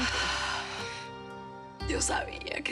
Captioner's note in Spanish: suspiros